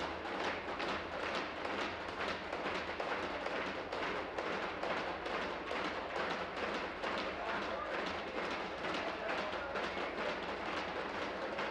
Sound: tapping on desks

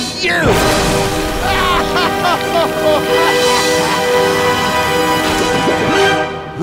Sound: laughing

